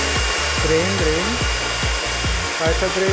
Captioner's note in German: Föhnlärm, aufregende Musik